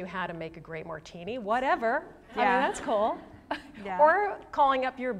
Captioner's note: laughter